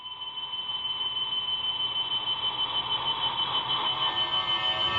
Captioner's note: static noises swelling